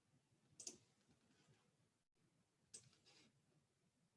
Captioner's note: mouse clicking